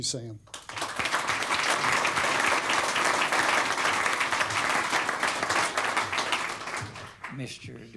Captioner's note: applause